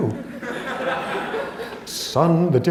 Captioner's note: laughter